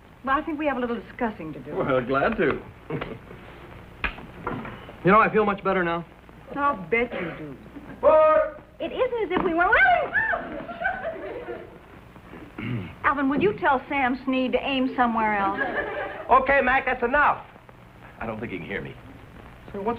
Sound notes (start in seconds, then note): 9.7 screams